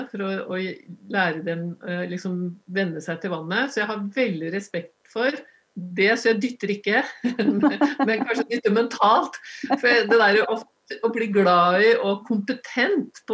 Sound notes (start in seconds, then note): 7.2 laughter